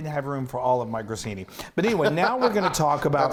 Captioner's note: laughs